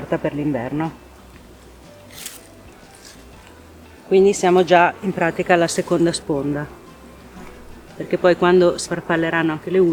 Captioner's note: bees